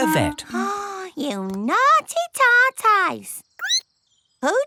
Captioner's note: gasps; squeaks